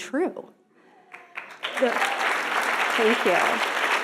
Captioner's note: audience applauding